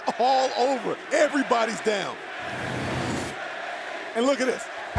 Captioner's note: fans chanting